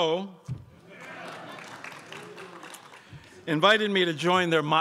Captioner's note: crowd applauds